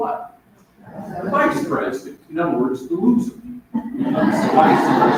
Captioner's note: laughter